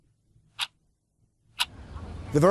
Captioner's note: clock ticking